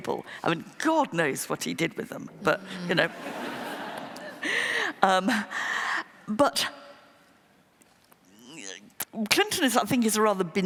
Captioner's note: laughter